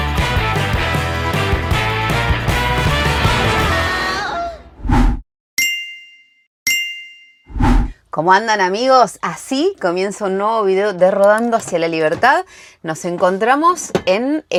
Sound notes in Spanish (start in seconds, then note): 1.0 campana